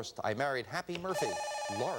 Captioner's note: buzzer